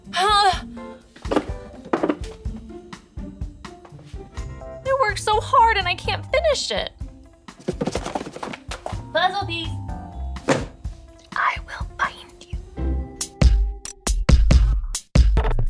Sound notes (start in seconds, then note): 7.6 box rattles; 12.6 upbeat music